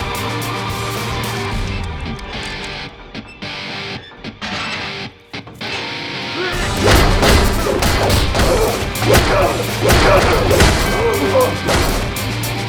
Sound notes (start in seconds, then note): 1.6 intense rock music continues; 6.6 blows thudding; 6.7 energetic upbeat music